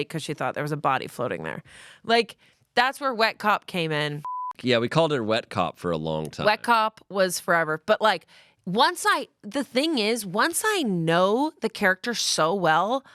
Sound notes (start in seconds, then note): 4.2 beep